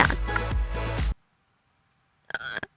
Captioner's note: painful silence